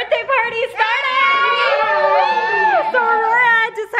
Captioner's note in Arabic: أطفال يهتفون